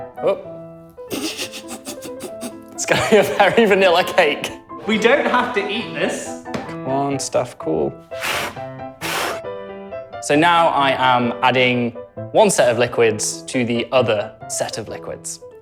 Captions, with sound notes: Oh! [laughs] It's going to be a very vanilla cake! We don't have to eat this. Come on, stuff, cool! [blows] So now, I am adding one set of liquids. to the other set of liquids.